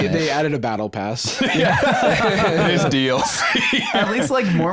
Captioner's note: laughing